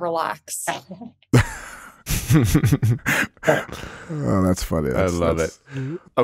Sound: everybody laughing

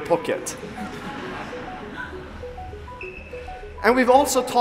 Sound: audience laughing

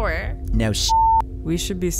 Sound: beep

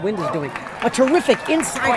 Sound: crowd clapping

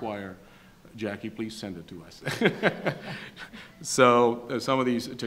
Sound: laughs

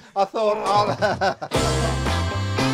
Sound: upbeat music; laughter

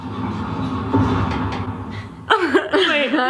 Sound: loud rumbling

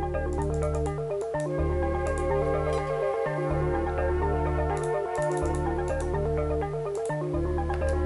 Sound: mouse clicking

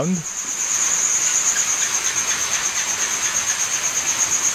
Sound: gecko going chak chak chak

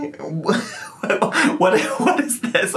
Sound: laughing

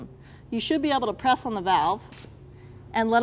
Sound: air hissing

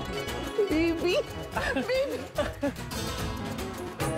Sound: Hathi laughs; comical music playing

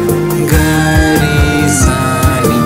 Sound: humming continues

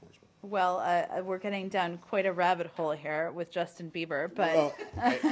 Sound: laughter

